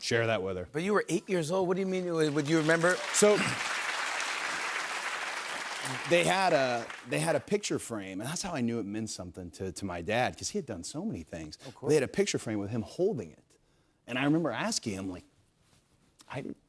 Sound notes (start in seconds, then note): 3.6 applause